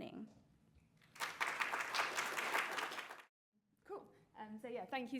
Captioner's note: applause